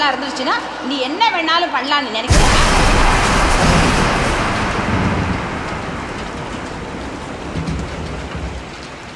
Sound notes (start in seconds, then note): 2.3 thunders